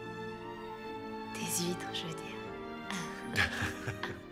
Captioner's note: laughing